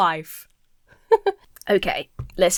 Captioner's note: giggles